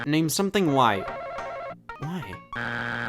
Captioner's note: buzzer beeps; buzzer rings